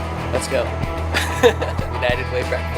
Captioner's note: upbeat music; laughs